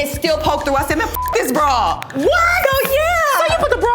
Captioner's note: beep